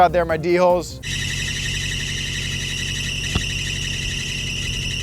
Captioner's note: car engine revving